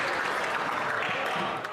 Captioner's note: some Applause